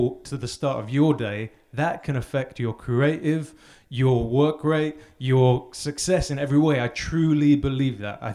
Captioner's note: none